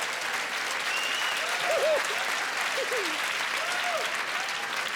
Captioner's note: applause